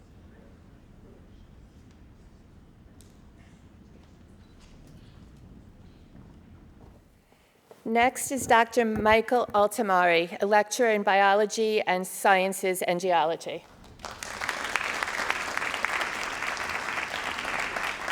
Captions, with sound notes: - Next is Dr. Michael Altimari, a lecturer in biology and sciences and geology. (crowd applauding)